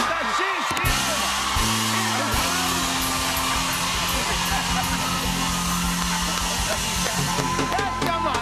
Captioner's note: cheers and applause